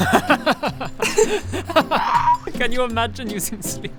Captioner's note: would-never-do-that giggles